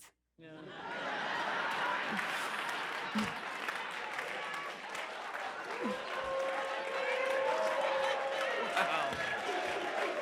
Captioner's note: laughter and applause